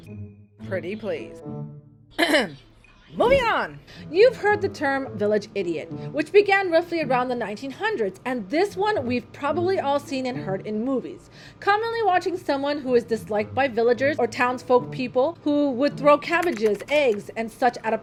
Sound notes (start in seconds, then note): 1.5 sarcastically